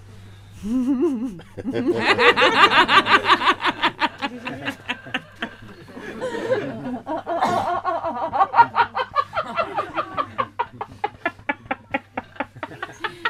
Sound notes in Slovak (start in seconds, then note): 1.5 Spytujúca sa a sa smejú